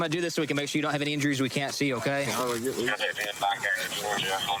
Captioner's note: scissors cutting